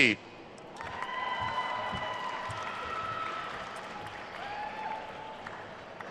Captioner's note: attendees cheering and applauding